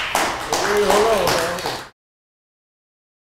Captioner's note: applause